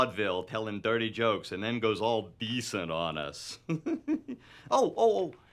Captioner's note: giggles